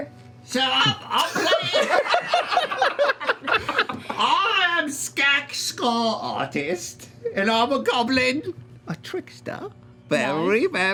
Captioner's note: high squeaky voice